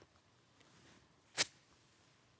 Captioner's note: blows dust off; swish; opens book quietly